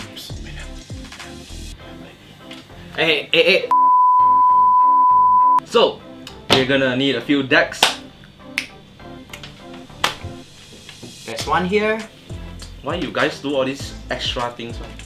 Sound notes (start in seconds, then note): 3.7 beep; 7.8 clap; 8.6 snap